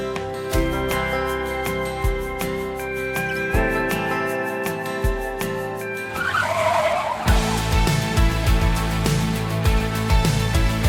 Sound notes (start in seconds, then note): 6.0 tires screeching; 8.0 bright music